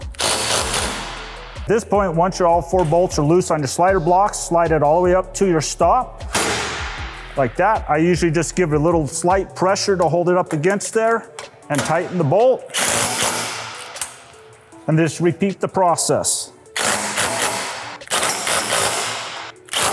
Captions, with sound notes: (driver whirring) This point, once your all four bolts are loose on your slider blocks, slide it all the way up to your stop (metal clanks) like that. I usually just give a little slight pressure to hold it up against there and tighten the bolt (driver whirring) and just repeat the process. (driver whirring)